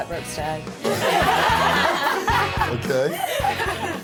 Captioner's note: laughing